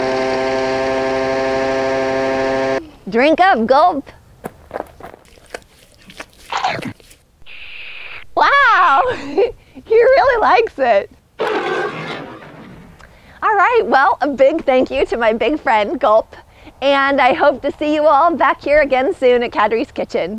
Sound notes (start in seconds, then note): 11.4 roars happily